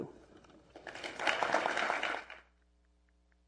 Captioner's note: applause